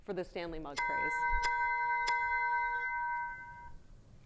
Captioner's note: bell dings